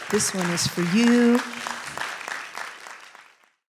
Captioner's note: applause